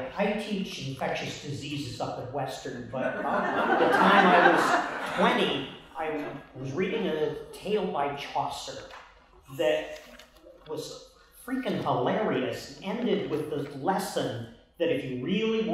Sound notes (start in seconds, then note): 3.0 laughter